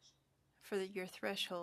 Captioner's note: speaking French